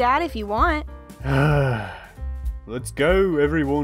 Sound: sighs

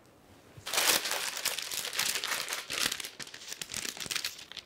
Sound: paper rustles

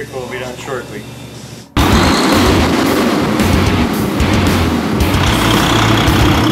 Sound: semi Engine Roaring

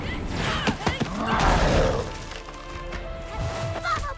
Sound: mermaids grunt; monster Chris roars

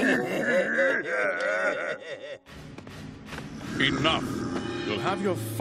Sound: giggling

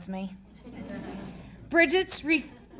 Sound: audience laughing

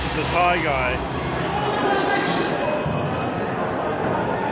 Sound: bell rings

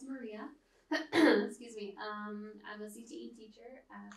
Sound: clear throat

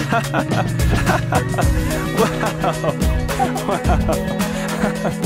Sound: laughing

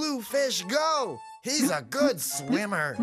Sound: bloop, bloop

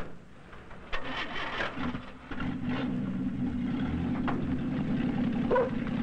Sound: truck noises; dog barking

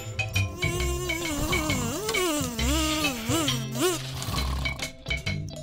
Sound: buzzes

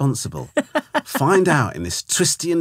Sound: laughing

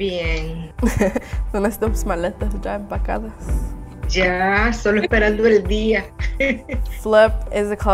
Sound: laugh

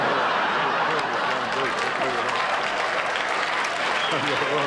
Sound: audience laughter

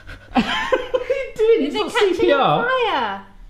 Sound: laughs

